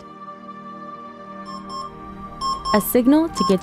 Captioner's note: alarm clock